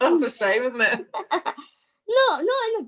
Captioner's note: laughs